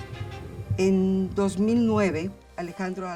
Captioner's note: speaking Spanish